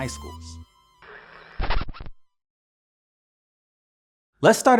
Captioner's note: digital buzzing